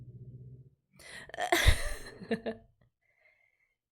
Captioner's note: laughs